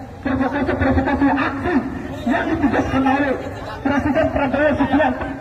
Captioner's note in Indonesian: tertawa; tertawa